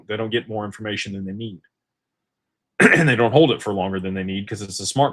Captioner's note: clears throat